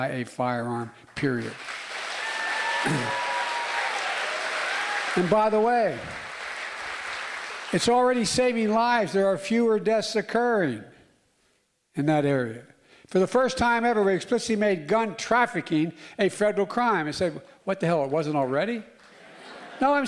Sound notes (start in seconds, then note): 8.1 applause